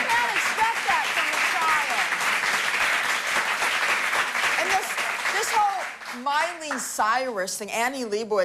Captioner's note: applause